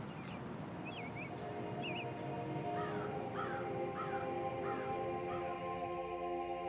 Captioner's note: brooding music; crow cawing